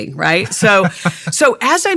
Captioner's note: laughing